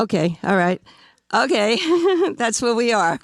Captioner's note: laughing